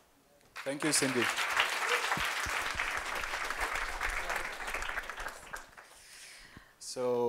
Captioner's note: applause